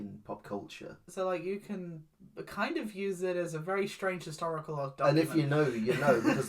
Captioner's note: laughs